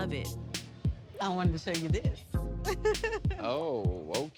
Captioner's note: laughing